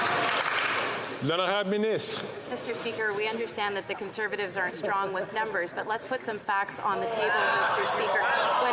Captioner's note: some Applause